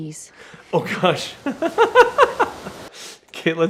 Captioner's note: laughing